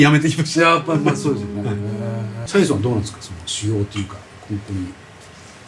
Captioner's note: laughs